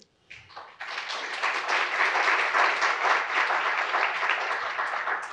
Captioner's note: audience applauds